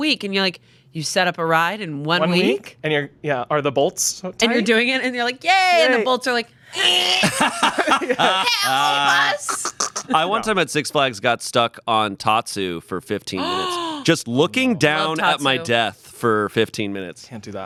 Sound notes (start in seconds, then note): 6.7 grunting; 6.8 laughing